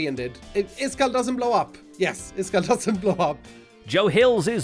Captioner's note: chuckles